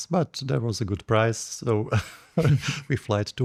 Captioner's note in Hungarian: nevetés